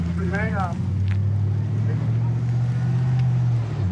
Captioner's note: truck driving